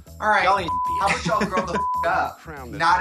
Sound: beep

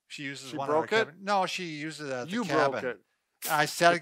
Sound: laughs

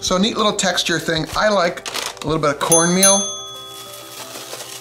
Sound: dinging

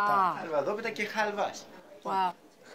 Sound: speaking Greek

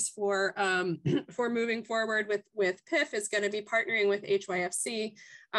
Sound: cough

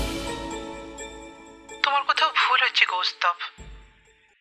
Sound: over the phone

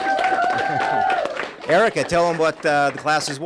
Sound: applause

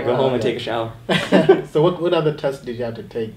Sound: laughing

